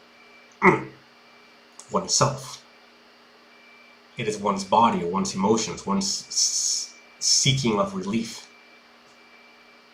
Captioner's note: grunt